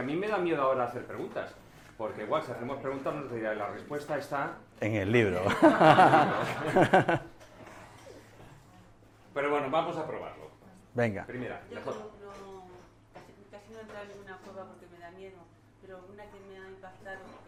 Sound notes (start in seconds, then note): 5.4 laughs